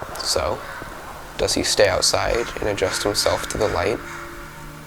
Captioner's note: bird caws